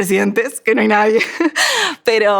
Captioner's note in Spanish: risa